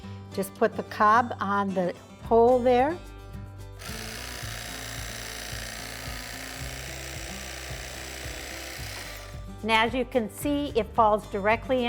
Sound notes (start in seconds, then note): 3.8 electric knife whirring